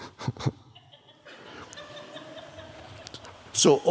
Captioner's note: Eckhart laughs